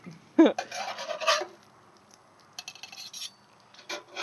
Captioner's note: chuckling